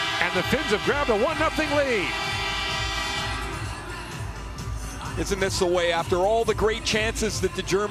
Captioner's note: horn sounding